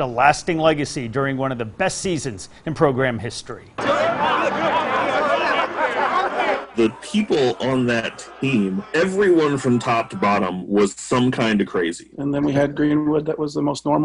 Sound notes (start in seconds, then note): 8.4 players laughing